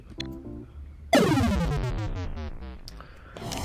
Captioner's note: death sound